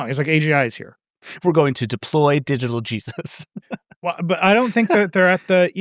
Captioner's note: laughs